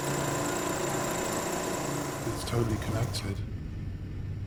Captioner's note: projector whirling